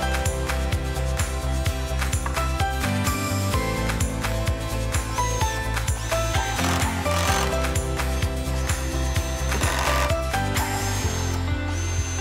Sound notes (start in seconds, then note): 6.2 drill whirring; 6.2 upbeat music